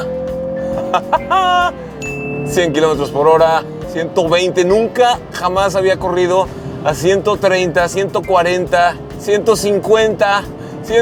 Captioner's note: laughter